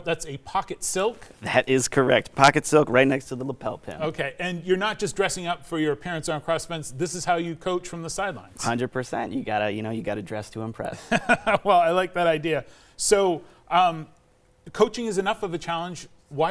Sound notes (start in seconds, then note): 10.9 chuckles